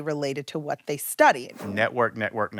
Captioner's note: screen whooshing